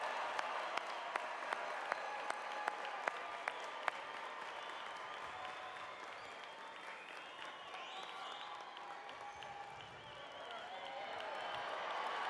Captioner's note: cheers and applause